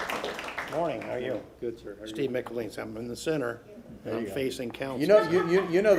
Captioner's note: applause